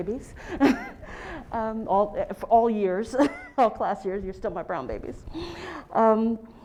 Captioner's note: laugh